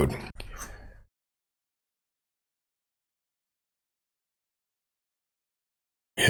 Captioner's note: blank Audio